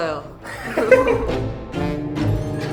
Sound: laughs

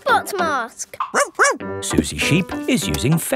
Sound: barks

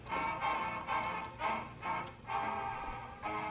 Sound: marbles clicking

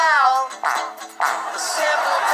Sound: fart, fart

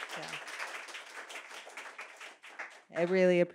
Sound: applause

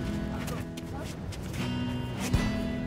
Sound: grunt

